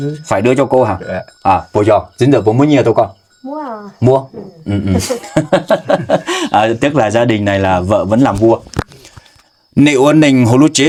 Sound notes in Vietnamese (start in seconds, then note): 4.7 tiếng cười